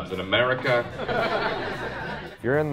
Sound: crowd laughing

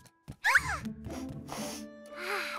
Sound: sniffs; exhales

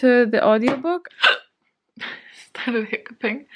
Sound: a super painful sounding hiccup

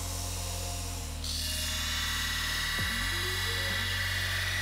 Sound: metal grinds

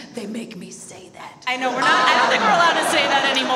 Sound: audience laughs

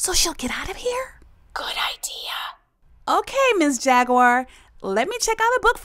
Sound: whispering

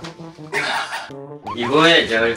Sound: laughing

